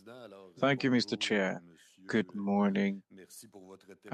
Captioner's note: speaking French